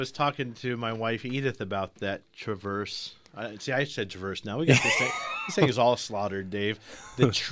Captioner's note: laughs